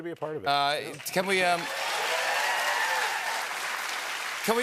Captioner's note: cheers and applause